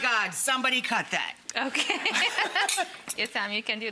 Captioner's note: female chef laughs